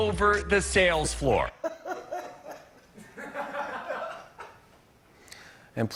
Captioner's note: laughter